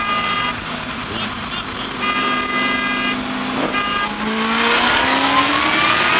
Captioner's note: car Honking